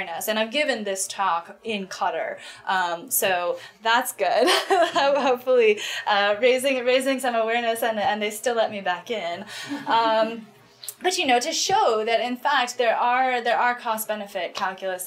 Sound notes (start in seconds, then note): 4.6 laughs